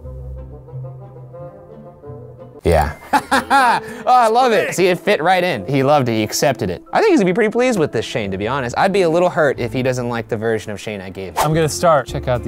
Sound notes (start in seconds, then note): 0.0 suspenseful music; 2.7 laughs